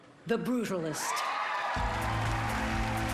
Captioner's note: applause